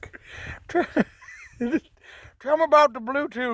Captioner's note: laughing